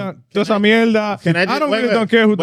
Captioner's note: speaking In Foreign Language